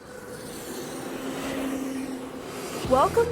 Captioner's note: sound of car zooming